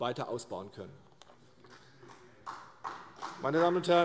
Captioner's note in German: Vereinzelter Beifall CDU und BÜNDNIS 90/DIE GRÜNEN